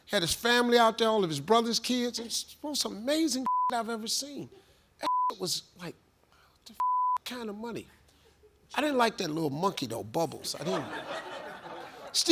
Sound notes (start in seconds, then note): 3.4 beep; 6.8 beep; 10.5 audience laughs